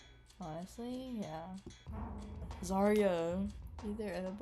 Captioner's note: excitedly